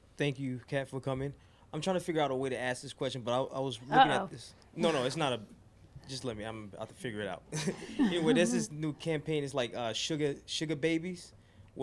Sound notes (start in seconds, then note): 0.0 voiceover; 7.6 laughs